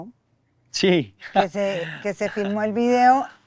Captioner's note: laughs